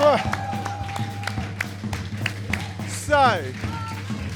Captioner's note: audience clapping